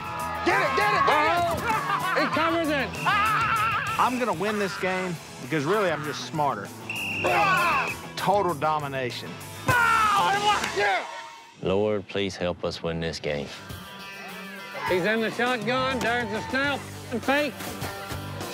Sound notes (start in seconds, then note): 1.1 shouting; 6.8 whistle; 9.6 victory yell